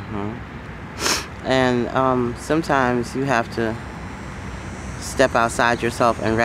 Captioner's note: sniffs